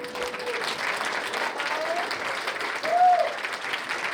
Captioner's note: cheers and applause